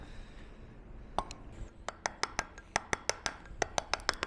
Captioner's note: metal hammering